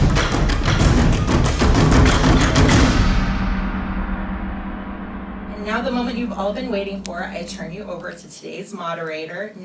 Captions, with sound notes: - [Voiceover] And now the moment you've all been waiting for I turn you over to today's moderator,